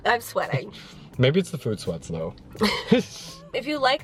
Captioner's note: laughs